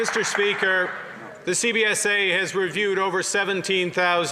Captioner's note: some Applause